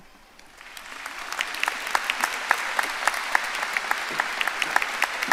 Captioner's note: audience applauding